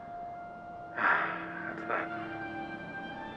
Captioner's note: sighs